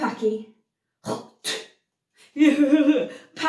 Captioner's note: James spits